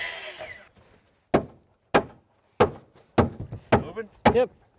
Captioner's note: hammer thudding